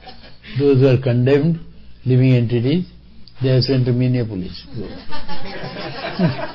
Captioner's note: laughter